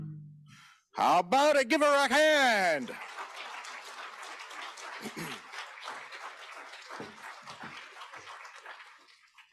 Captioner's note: applause